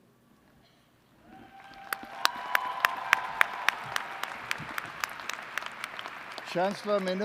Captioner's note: applause